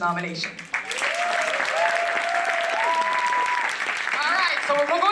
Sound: applause

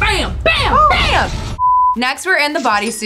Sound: beep

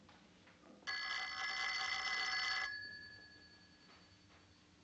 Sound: telephone rings

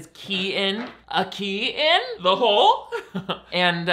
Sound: chuckles

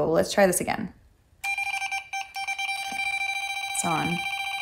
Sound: machine beeping

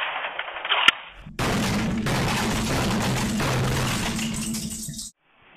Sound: computer breaking

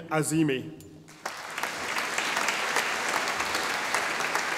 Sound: audience applauding

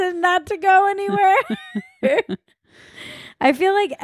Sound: laughs loudly

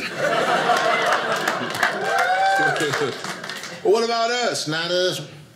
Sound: audience laughing; audience applauding

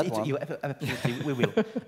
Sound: laugh

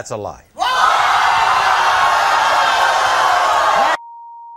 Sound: audience gasping

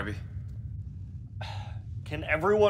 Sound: sigh

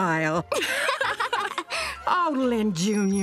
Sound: laughing

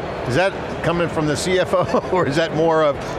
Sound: laughs

